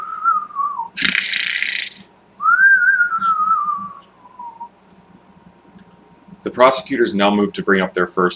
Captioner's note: snores